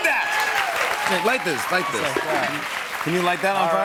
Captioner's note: cheers and applause